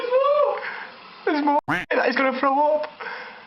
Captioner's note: quacks